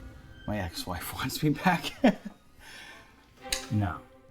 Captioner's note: laughs